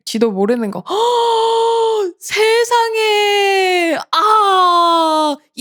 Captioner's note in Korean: 헉 소리